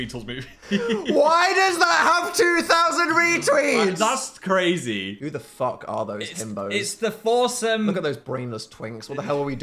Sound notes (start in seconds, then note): 0.4 Phil laughs